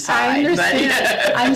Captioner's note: laughs